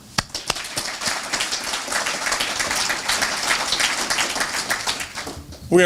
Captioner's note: applause